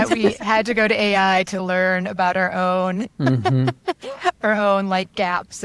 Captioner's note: laughs